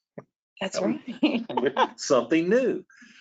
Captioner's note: laughs